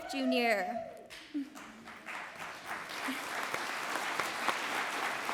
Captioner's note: audience applauds